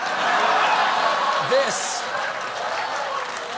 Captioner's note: cheers and applause